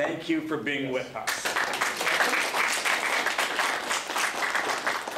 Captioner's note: applause